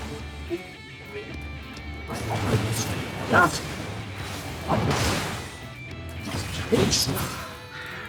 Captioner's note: gunshots